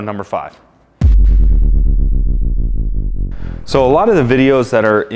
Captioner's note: descending tone